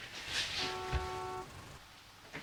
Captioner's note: taxi Beeps